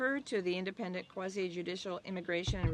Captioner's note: speaking French